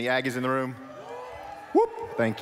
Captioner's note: shouts